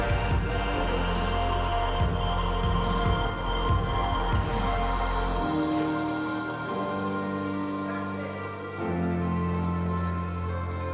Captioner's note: chanting